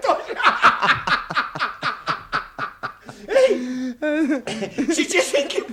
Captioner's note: laughs out loud